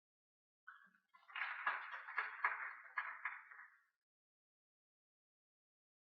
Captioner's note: audience applauding